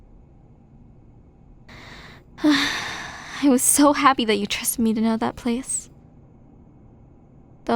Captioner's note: sigh